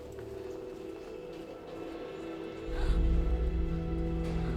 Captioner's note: gasps